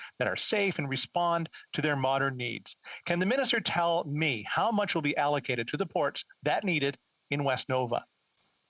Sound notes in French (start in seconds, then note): 1.1 voix de l'interprète